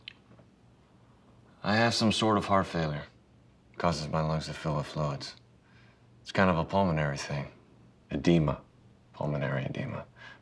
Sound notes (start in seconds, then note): none